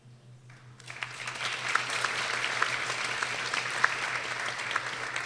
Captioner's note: people applauding